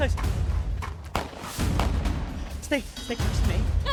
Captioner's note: gunshots blasting